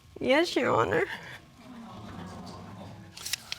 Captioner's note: voice shaking; audience exclaiming